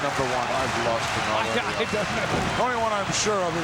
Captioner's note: laughs